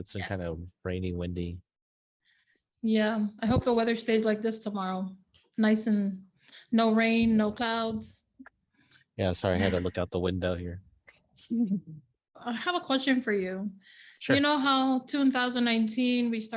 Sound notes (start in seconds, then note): 9.4 chuckles